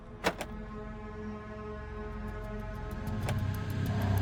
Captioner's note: trunk clicks